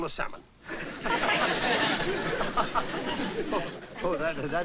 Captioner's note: laughter